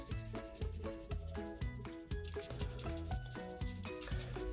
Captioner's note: pencil scratching